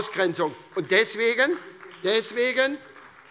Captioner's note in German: Beifall bei der SPD